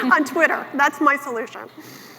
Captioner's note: laughs